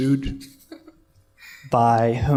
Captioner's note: laughter